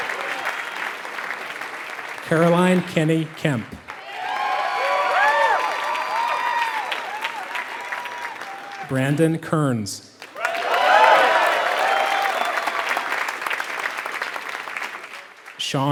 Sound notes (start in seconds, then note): 0.0 applause